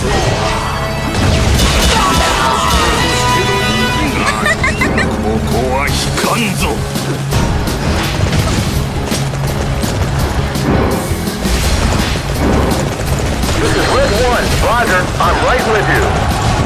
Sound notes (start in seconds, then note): 2.4 KO Scream; 4.0 laughs